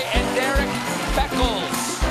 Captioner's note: cheers and applause